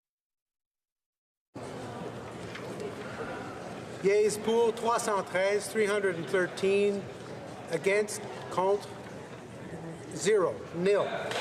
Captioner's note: some Applause